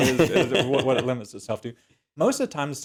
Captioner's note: laugh